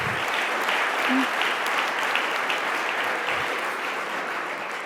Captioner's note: audience applauding